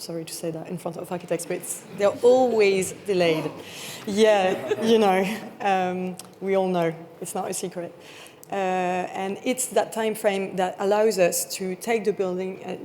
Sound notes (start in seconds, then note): 4.4 attendees chuckling